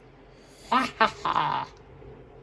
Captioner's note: laughs